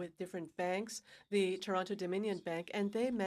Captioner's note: speaking in french